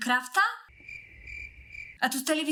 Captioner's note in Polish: cykanie owadów